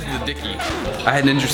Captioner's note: record scratch